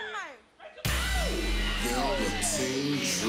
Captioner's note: crowd chatter